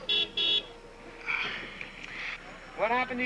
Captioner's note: car horn honks